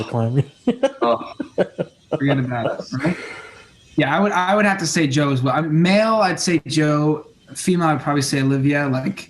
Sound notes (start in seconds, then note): 0.6 scoffs